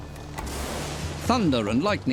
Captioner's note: thunderclap